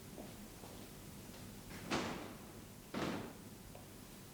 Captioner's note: door closes